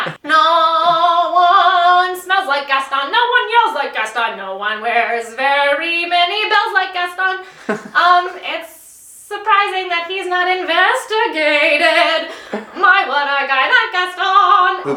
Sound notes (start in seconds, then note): 7.5 laughing